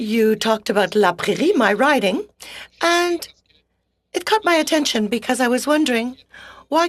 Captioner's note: speaking French